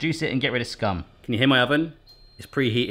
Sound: oven beeps

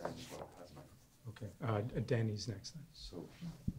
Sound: voiceover

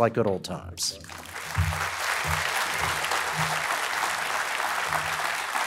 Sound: applause

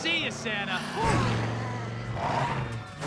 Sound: Bad Guys sighing

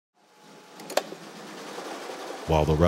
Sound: sewing machine

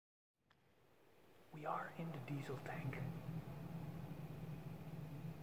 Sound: whispering

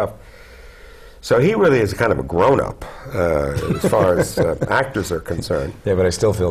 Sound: laughter

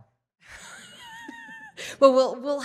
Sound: woman laughs

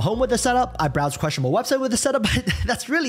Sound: chuckles

